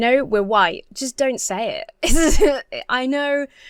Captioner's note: laughs uncomfortably